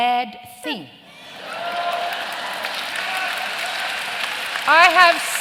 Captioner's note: cheering and applause